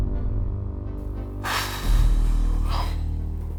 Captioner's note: sigh